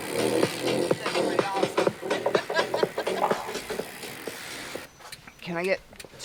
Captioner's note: laughs; laughs